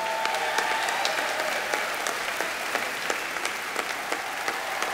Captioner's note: applause